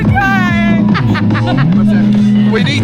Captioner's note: laughs